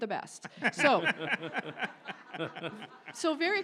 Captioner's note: audience laughs